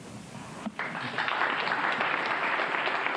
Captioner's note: applause